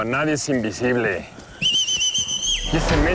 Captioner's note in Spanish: Chiflido